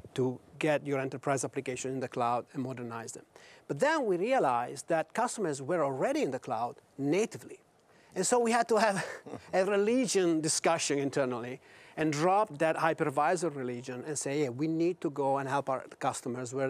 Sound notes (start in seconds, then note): 8.9 all chuckle